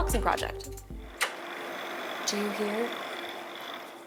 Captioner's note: computer running